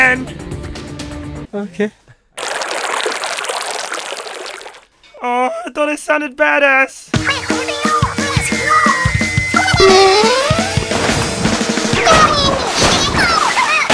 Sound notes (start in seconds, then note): 11.5 drowning; 11.9 splash